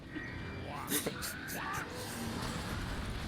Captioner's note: laughs